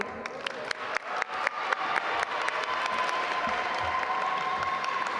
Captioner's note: audience applaud